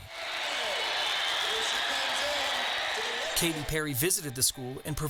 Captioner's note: students cheering